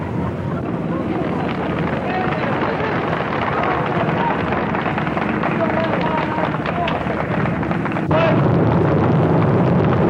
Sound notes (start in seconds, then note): 0.6 birds flapping; 2.6 applause; 8.2 vehicle noise and horses hooves clopping